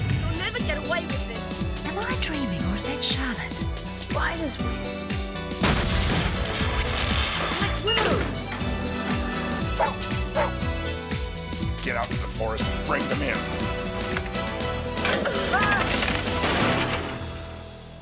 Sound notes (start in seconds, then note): 5.6 explosion booming; 10.3 barking; 15.5 shouting